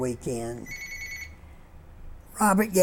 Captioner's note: phone ringing